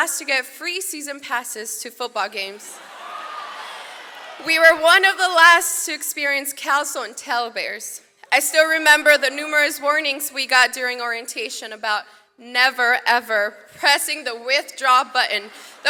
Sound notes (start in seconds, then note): 2.7 audience cheers